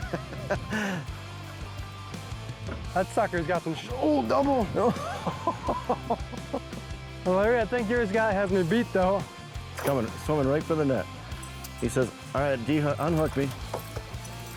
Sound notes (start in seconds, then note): 0.0 group laughs; 0.3 upbeat rock music continues; 4.6 group laughs